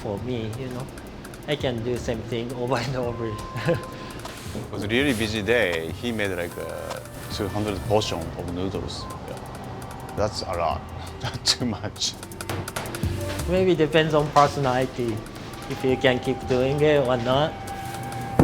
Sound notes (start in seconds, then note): 10.4 chuckles